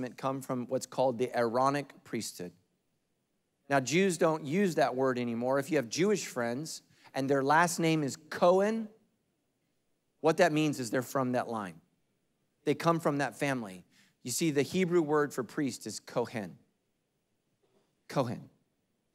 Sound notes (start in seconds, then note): none